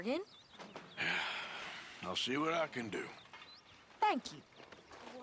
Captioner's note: sighs